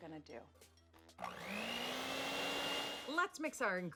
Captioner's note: mixer whirring